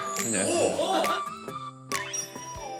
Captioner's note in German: Kichern